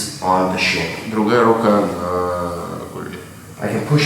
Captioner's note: speaking in a foreign language